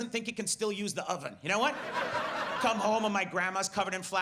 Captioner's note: audience laughs